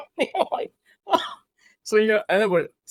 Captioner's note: laughs